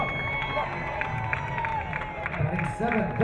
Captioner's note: crowd cheering